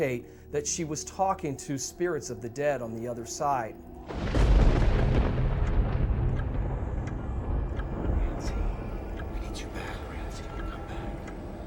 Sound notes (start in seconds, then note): 4.0 thunder crashing; 6.2 clock ticking